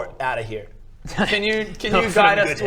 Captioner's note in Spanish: se ríe